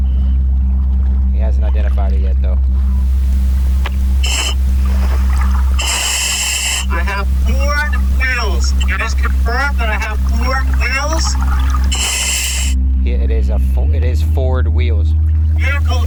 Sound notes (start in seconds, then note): 4.4 oxygen pipe whirling